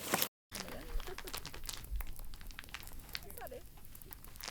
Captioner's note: fire crackling